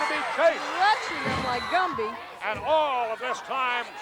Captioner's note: audience shouting